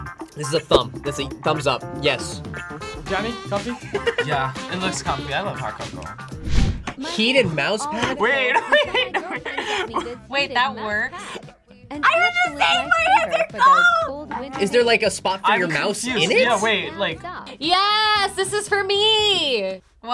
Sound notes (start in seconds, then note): 3.9 laughs; 8.4 laughs